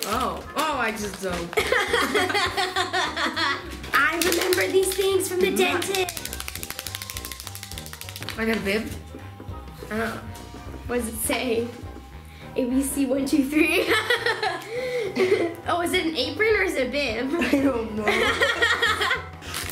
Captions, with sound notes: Oh, oh I just -- (laughing) I remember these things from the dentist. (hands slapping) - I got a bib. - Oh. What does it say? ABC123 (laughing). Oh is it an apron or is it a bib? - I don't know. (laughing)